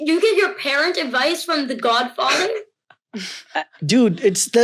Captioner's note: family chuckling